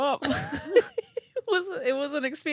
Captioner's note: laughing